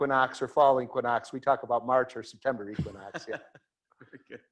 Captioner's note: laughs